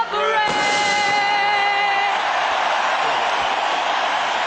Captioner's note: applause